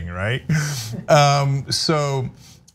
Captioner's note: laugh